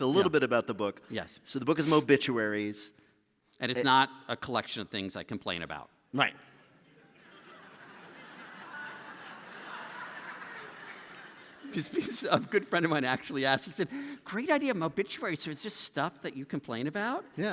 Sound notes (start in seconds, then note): 9.5 laughter